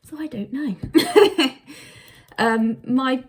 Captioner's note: laughing